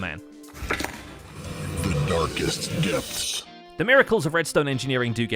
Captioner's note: distorted on disc